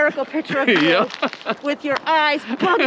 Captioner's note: laughs